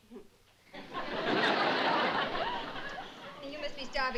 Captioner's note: laughter